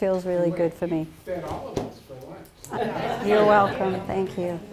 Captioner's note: laughter